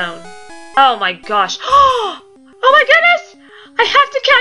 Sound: deep gasp

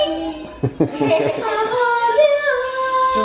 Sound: laughing

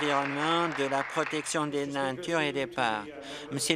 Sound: applause

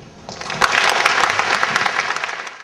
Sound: audience applause

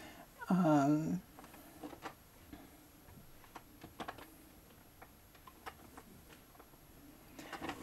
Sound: chair creaking

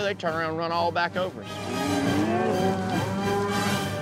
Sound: mooing

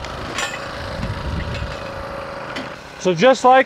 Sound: metal clanging

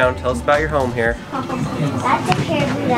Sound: laughter

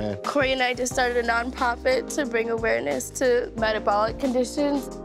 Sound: none

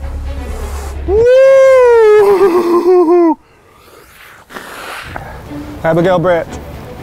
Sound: blowing nose

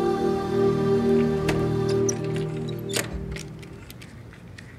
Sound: door opens

